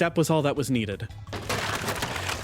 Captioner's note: trap Springing